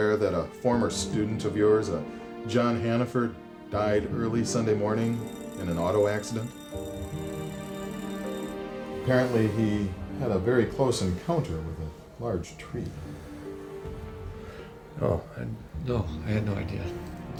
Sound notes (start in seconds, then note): 7.3 bell ringing; 7.3 somber music continues